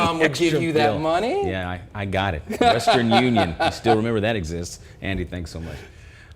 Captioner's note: laughter